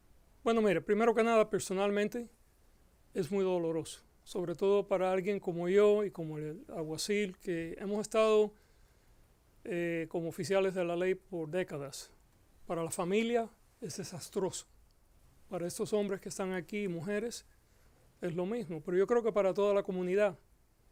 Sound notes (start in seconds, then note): 0.3 Gascon speaking Spanish